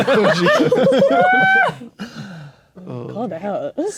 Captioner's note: players laughing